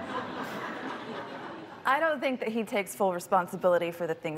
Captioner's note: laughter